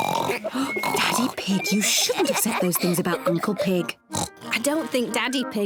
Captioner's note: both snore exaggeratedly; whispering